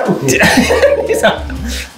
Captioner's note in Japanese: 笑い声